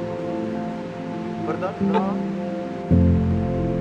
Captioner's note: in Spanish